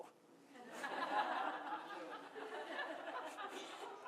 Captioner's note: laughter